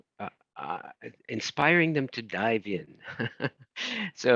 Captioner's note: chuckles